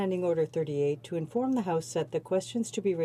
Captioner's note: speaking French